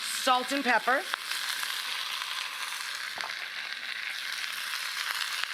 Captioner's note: vegetables sizzling